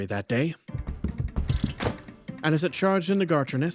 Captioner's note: fast Footsteps